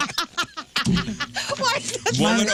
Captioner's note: laughing